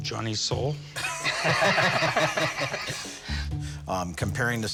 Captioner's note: laughter